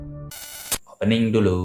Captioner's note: interference sound